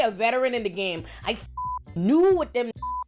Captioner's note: beep